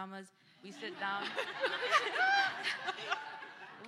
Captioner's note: laughter